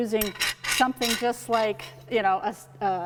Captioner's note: squeaking